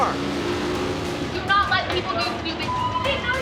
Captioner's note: motorcycle engine revving